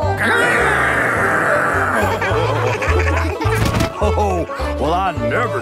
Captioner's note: laughing